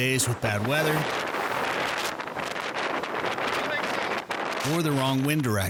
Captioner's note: wind blustering